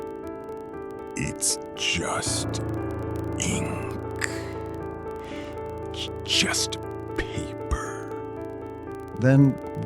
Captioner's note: weaker, distorting